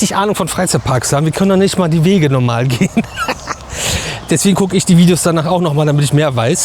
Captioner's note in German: gelächter